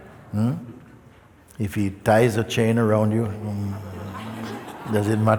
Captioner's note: laughter